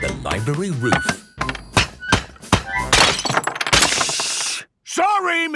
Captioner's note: banging, crashing